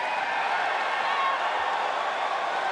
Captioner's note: cheers and applause